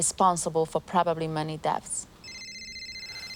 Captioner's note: ringing continues